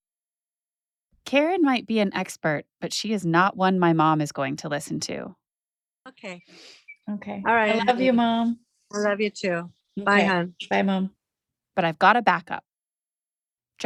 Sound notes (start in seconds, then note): 6.0 Sounds of saying goodbye on Zoom call